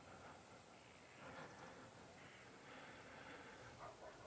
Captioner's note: crickets chirping